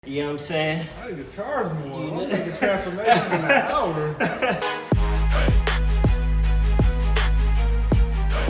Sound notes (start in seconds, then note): 2.2 laughing; 4.8 hip-hop music playing